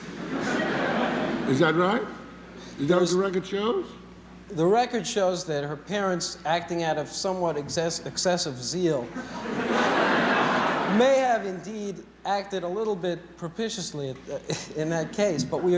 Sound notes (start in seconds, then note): 0.1 laughter; 9.1 laughter